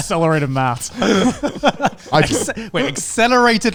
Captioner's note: all laughing